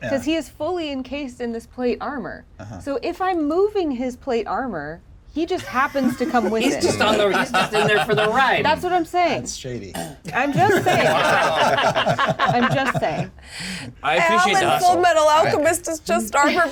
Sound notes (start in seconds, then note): 10.2 laugh